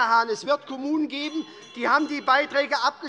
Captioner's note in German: Unruhe - Glockenzeichen des Präsidenten